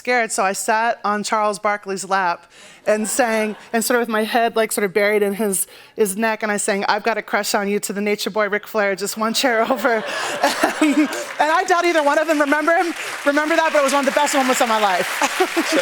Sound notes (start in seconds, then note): 2.9 laughter; 9.6 laughter and applause